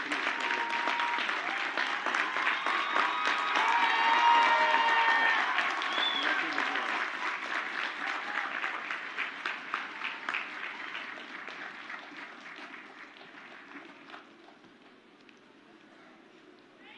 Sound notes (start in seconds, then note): 0.0 crowd cheers; 3.0 crowd applauds